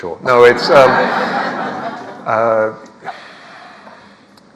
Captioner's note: audience laughs